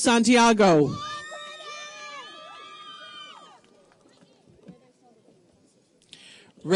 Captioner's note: audience members cheer